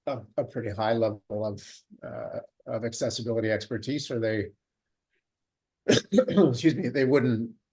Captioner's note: coughs